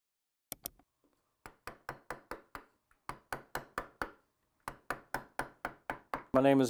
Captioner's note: keyboard clacking; mouse clicking; chisel tapping